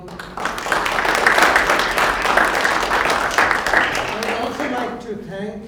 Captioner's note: applause